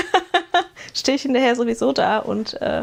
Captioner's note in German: gelächter